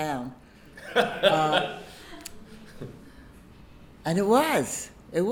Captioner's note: audience laughing